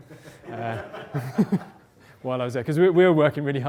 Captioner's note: laughter